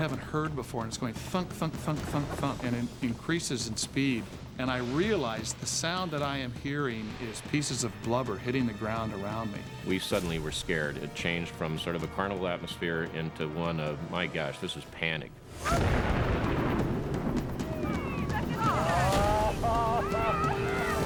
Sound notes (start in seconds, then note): 15.5 dynamite exploding; 17.6 people cheering